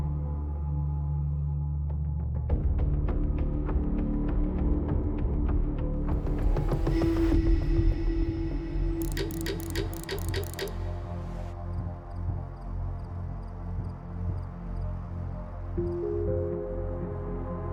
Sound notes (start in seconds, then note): 9.0 clock gears clicking; 15.5 mysterious music playing